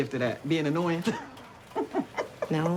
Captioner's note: laughter